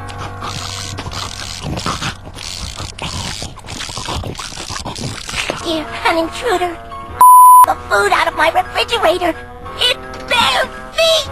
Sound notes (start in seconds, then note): 0.0 slurping Sounds; 7.2 beep